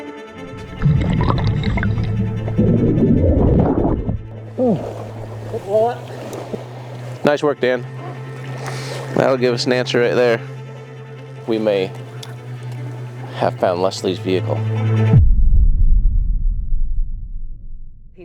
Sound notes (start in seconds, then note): 0.2 suspenseful music; 2.8 water gurgling